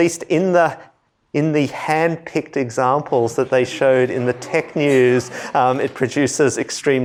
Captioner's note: laughter